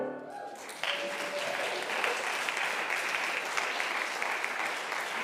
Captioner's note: congregation applauds and cheers